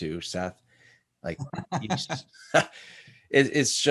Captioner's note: laughs; chuckles